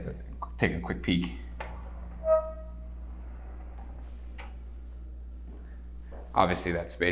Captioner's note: door squeaks softly